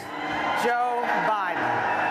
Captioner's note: cheering and applause